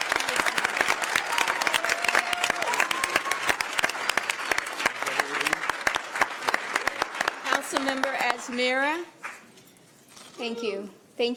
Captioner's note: applause